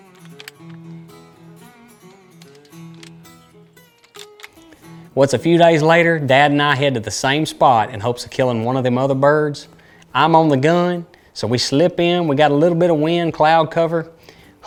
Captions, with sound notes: (upbeat music) (gun loads) - Well, it's a few days later and dad and I head to the same spot in hopes to killing one of them other birds. I'm on the gun. So we slip in, we got a little bit of wind cloud cover